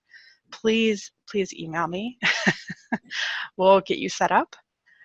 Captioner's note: laughs